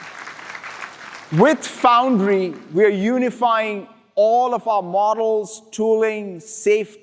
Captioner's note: applause